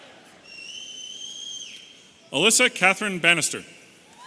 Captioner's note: audience whistling